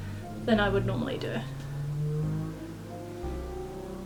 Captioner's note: loud car engine